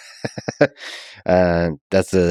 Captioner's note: Lex chuckles